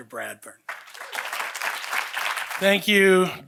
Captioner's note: audience applauding